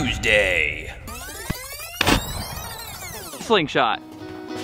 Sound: video rewinds

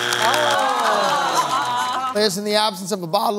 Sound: buzzer sounds

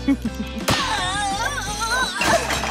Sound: screaming

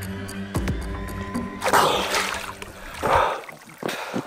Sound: splash

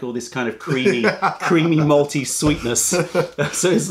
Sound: laughter

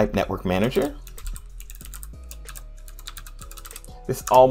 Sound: typing

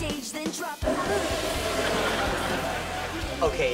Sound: laughing

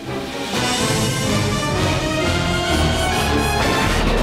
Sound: rumbling

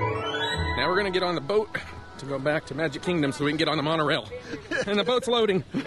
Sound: laughing

